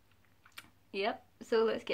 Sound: clicks tongue

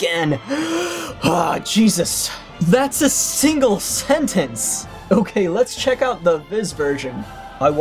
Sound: exhales sharply

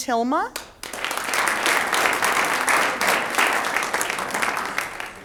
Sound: audience applauds

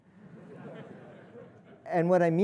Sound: audience laughing

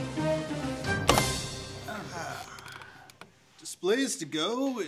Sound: sigh of relief

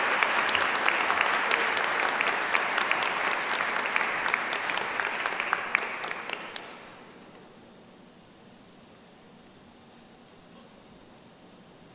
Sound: applause

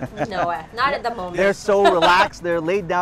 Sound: laughs

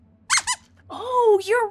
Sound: squeaks squeaks

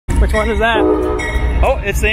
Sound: train bell

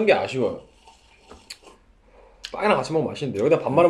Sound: slirp

